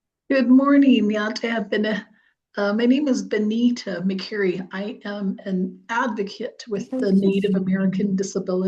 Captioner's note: indigenous language spoken